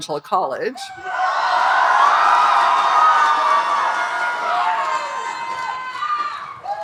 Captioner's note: audience cheering and applauding